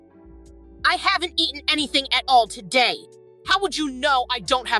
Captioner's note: Chantal angrily